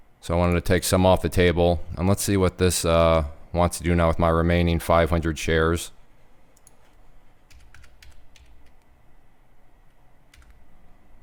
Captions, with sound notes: So I'm gonna take some off the table, and let's see what this wants to do now with my remaining 500 shares. (typing)